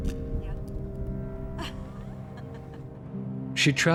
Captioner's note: laughs